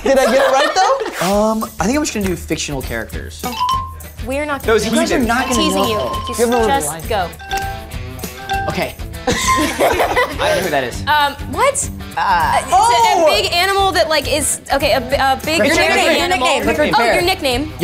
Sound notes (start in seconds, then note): 3.5 app chimes; 7.5 app ticking; 9.2 group laughing